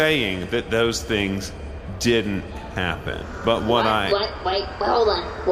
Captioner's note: audience “ooh”s